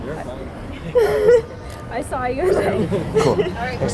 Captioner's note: laughs